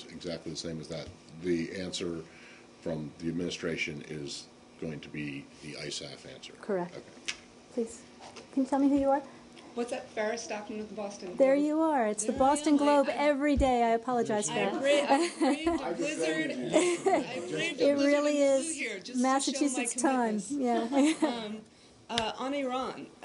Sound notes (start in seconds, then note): 19.1 laughter